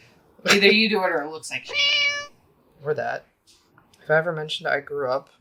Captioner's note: meow